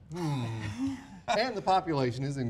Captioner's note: sighs